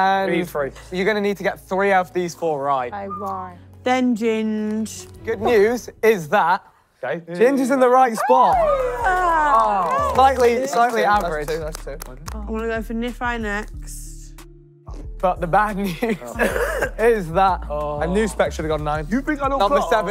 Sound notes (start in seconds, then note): 8.1 contestants cheering